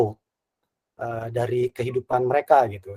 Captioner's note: non-english speech